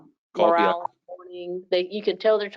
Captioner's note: speaking faintly